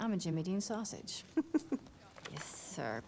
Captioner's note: chuckles